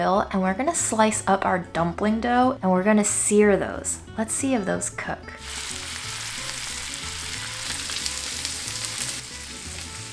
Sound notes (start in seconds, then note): 5.4 oil sizzling